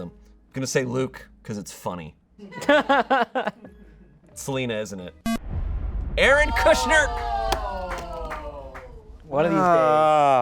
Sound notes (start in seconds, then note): 2.5 audience laughing; 5.1 dramatic music; 6.2 audience exclaiming